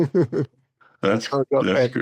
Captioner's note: laughs